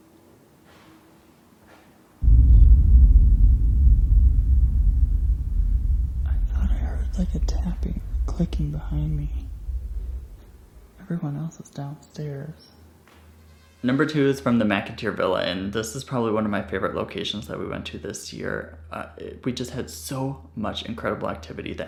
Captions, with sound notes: (banging) I thought I heard a tapping or a clicking behind me. Everyone else is downstairs. Number two is from the McInteer Villa and this is probably one of my favorite locations that we went to this year. We just had so much incredible activity